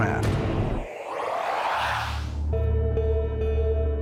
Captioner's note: otherworldly warbling